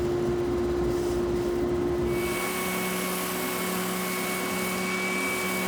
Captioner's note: machinery continues to whir